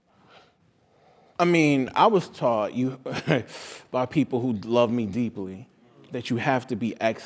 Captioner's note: laugh